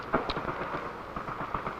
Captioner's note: footsteps